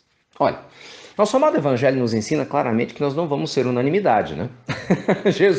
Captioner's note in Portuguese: risos